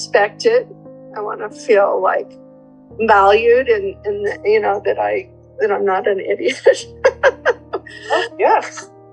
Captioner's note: laughing